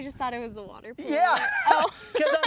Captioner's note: laughter